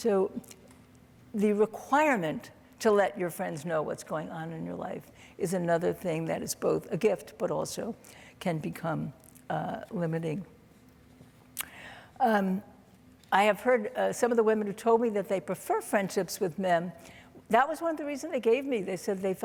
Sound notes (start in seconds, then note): none